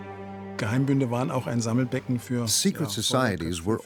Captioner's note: speaking in German